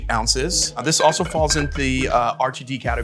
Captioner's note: bottles clanging